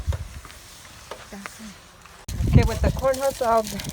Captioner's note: coal cluttering